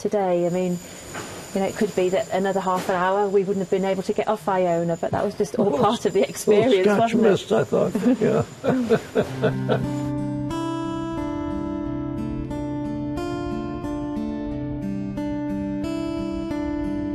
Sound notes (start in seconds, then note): 8.0 laughs; 9.2 scottish music